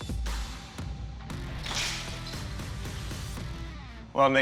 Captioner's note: pot shattering